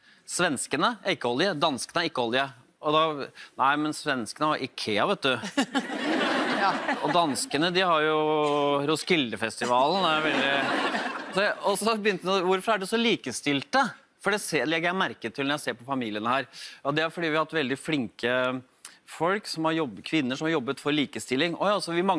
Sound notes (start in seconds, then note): 5.2 laughter from audience; 9.8 more laughter